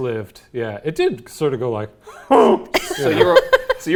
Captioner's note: grunts; laughing